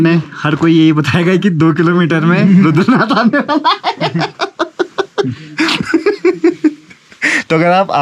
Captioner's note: laughs